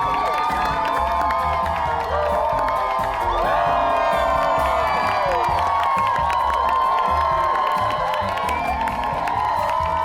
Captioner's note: crowd cheers, claps